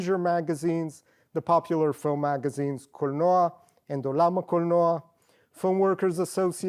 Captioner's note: non english